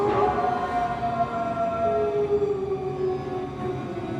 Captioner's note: bell tolls; dark music; wolves howl